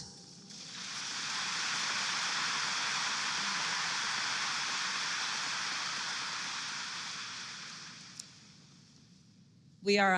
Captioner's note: applause